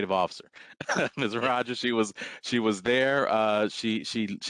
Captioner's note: laughter